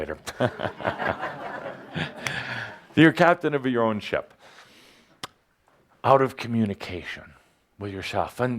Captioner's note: laughter, Adamus chuckles